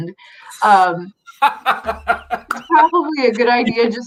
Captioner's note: laughs